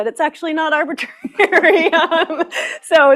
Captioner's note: laughter